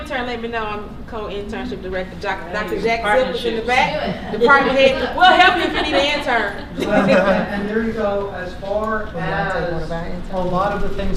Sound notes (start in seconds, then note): 7.2 laughter